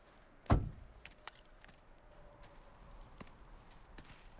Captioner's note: door thuds